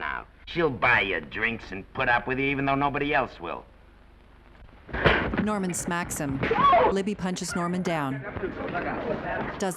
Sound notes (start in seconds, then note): 4.9 chair clattering